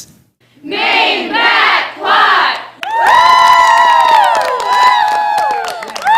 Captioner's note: cheering